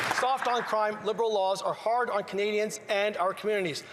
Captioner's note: some Applause